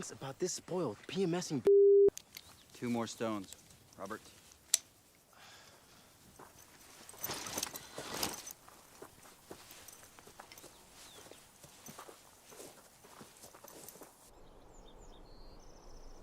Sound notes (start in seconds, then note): 5.3 Robert sighs; 7.1 gear clanking